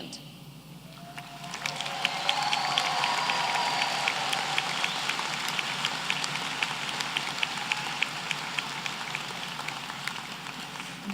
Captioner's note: applause